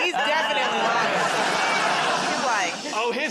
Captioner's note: laughter